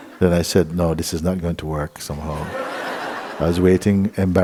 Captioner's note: laughter